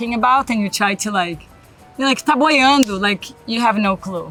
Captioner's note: speaks Portuguese